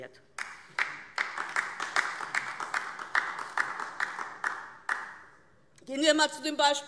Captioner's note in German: Beifall DIE LINKE